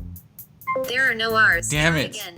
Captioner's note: voiceover